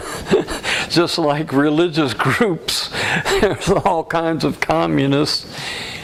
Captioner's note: laughter